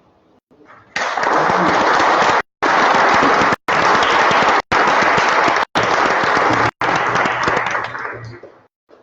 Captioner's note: applause